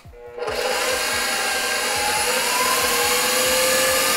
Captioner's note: mixer whirs